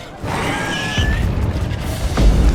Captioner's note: screech; ground rumbles; thunderous boom